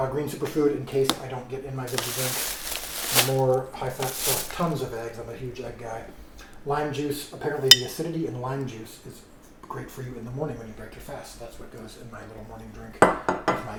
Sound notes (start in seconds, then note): 1.8 bag crinkles